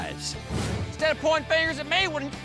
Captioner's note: angrily shouts